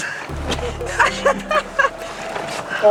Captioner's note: laughter